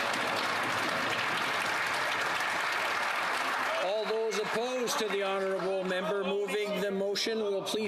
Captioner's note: some Applause